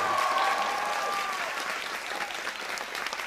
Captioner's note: cheers and applause